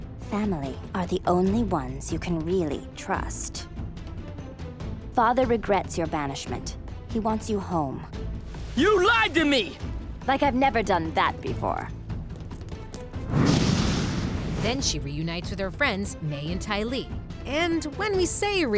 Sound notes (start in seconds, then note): 1.1 intense cinematic music; 5.8 intense cinematic music; 13.2 fire whooshes; 14.3 intense cinematic music